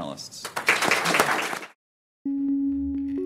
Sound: audience applauding; subtle music

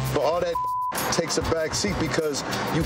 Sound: beep

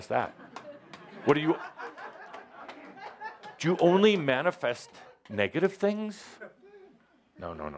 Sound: much laughter

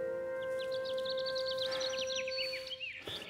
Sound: birds tweet

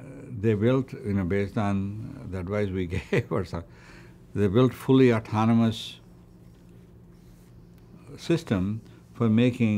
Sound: laughs

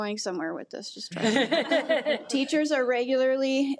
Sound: audience laughing

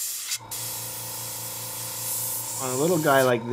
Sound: motor whirring

